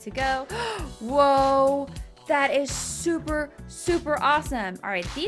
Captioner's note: gasping